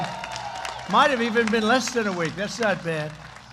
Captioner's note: applause